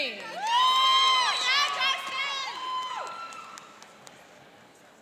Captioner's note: cheering and applauding